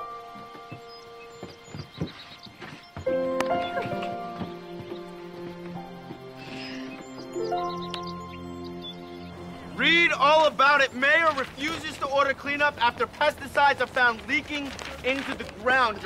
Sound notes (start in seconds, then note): 1.9 insects chirping; 3.8 serene music